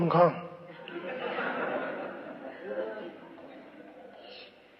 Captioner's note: laughter